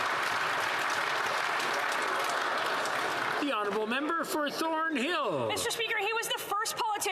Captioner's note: some Applause